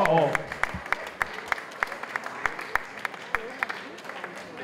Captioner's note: applause